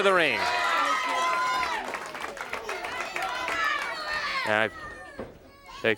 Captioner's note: crowd chatter